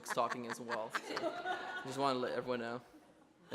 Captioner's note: laughs